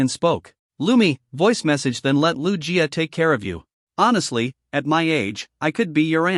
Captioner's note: voice Message